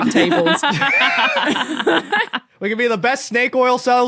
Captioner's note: group laughing